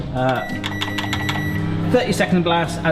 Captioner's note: fan hums; button beeps